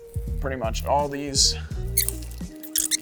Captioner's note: high-pitched squeaking